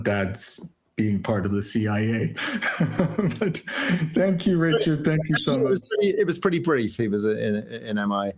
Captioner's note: laughter